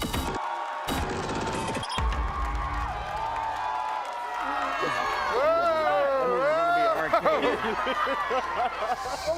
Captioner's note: cheering